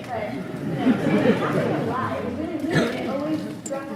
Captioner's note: audience laughs